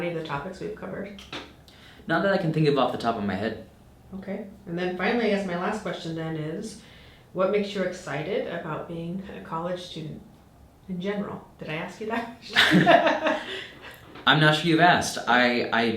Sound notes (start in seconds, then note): 12.5 laughing